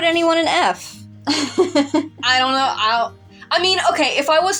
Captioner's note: laugh